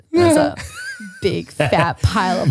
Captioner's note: laughs